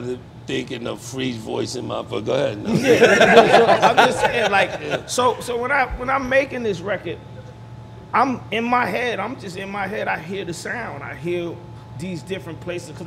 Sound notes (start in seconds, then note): 2.7 everyone laughing